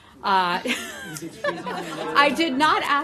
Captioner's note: laughter